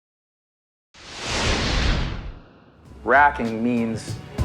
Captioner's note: intense whooshing